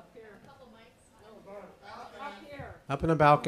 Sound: faintly speaking

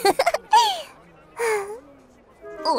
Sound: giggling

